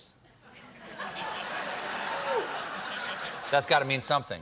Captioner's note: laughter